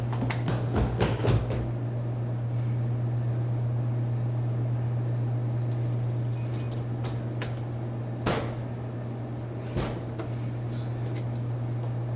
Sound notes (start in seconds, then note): 0.0 footsteps thudding; 6.2 vending machine beeping